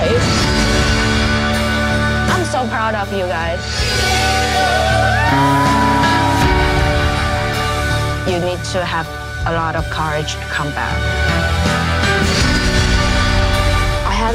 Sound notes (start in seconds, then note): 0.2 upbeat music; 3.8 upbeat music; 3.9 people cheering; 11.1 upbeat music